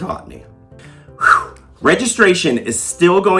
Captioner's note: exhales deeply